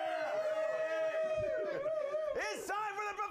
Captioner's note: scattered cheers